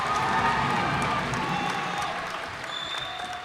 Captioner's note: cheers and applause